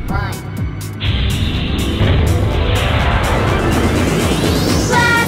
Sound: loud whooshing

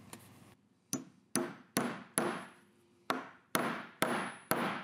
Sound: hammer tapping

